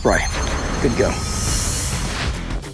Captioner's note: shimmering